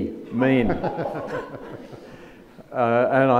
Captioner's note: audience laughs